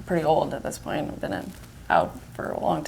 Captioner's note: none